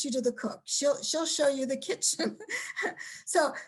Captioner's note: laughs